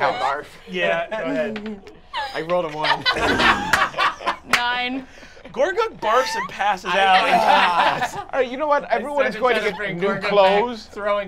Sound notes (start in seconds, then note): 3.9 laughing